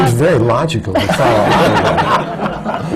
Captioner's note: laughter